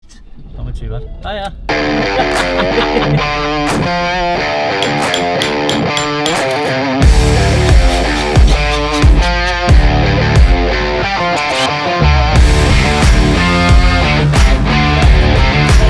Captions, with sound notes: - I'm not too bad. Hiya. (rock guitar music) (laughter) (rock guitar music continues)